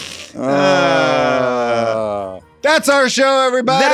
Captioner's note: both sighing; both laughing